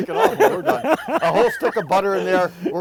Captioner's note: laughing